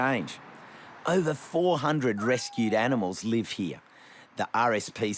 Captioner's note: kitten mewls